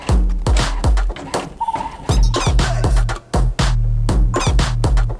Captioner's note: printer running